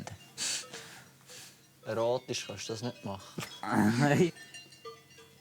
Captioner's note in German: Lachend